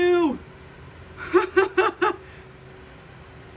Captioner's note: panic laughing